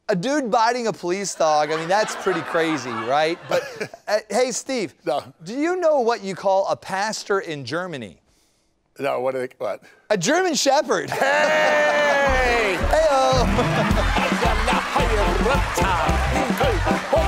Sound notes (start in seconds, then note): 1.4 laughter; 1.6 laughs; 13.0 laughter